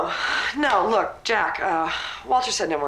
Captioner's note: sighs